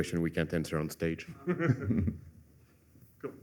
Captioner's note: laughter